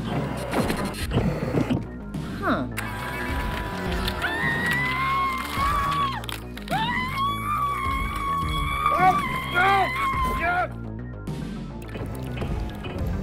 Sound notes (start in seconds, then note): 6.6 screaming